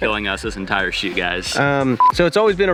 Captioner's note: marker beep